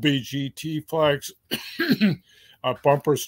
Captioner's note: cough